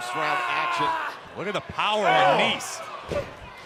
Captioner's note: crowd chatter